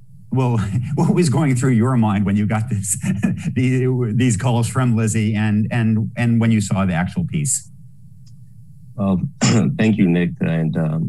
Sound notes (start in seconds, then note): 2.2 laughs; 9.0 clear throat